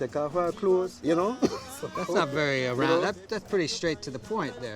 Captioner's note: laughter